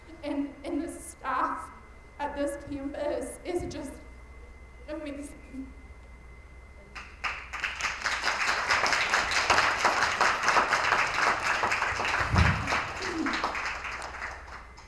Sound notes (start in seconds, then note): 7.0 attendees applauding